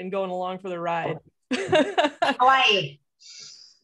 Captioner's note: laughing